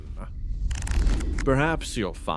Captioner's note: page flip